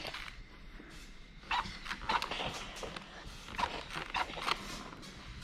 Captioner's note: steam spray squeaking